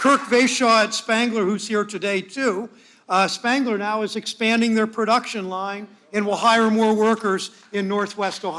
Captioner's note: applause